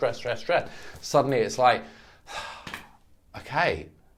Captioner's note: sighs